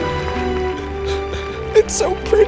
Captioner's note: weeps